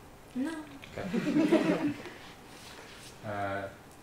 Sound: laughter

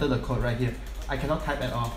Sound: intense keyboard typing

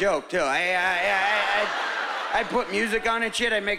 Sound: stammering

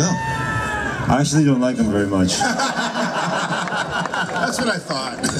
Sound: crowd laughs

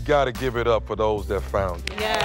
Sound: applause

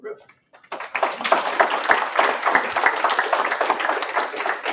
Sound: applause

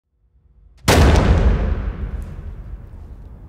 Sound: gun shot

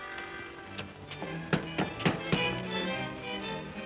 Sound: accordion plays; upbeat music; knocking on door; upbeat music

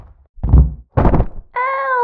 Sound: thud!; crash!

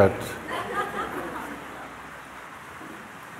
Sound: laughter

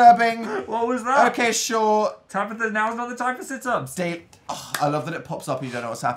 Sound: claps

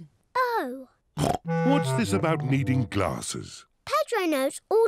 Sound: snorts

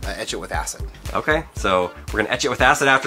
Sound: voiceover

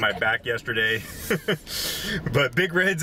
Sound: both laugh

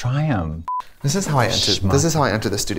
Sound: blooper noise

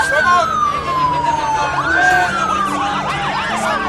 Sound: siren sounds

